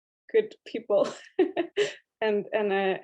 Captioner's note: laugh